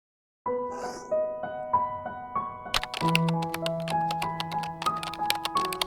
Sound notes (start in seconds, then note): 0.0 gentle upbeat music; 0.0 keyboard typing